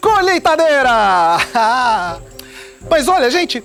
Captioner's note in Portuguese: Risada